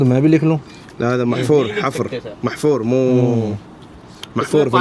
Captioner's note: Arabic